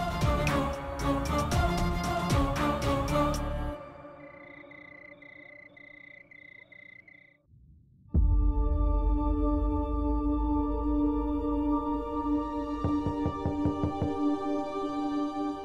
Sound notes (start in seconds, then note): 3.8 crickets chirping; 8.2 emotional music playing